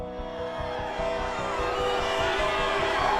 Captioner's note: crowd cheering